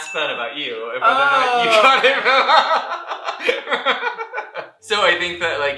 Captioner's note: laughter